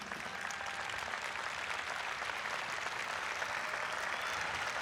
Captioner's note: audience applauds